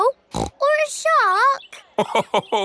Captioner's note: snorts; laughs